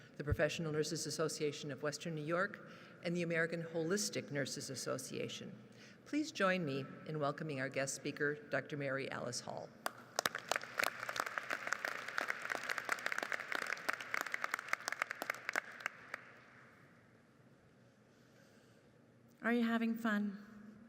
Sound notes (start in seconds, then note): 10.1 audience applauds